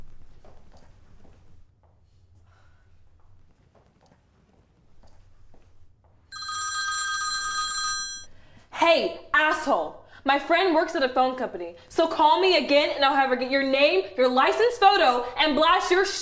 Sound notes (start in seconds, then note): 6.3 phone rings